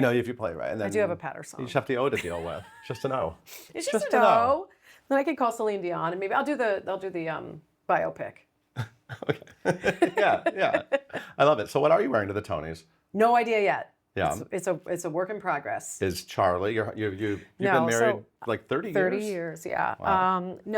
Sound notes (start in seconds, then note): 8.8 laughs